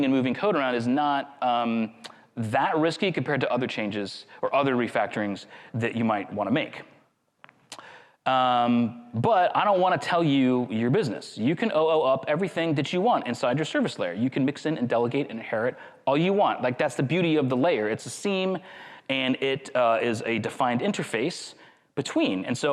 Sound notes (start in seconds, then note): none